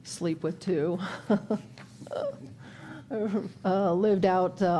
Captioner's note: chuckles